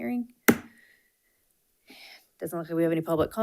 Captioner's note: gavel thuds